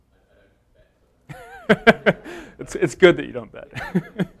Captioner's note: laughs